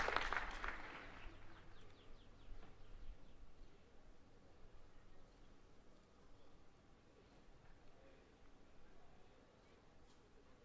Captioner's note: applause